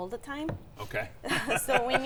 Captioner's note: laughs